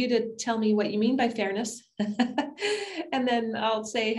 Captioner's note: laughs